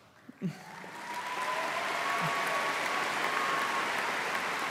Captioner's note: audience applauding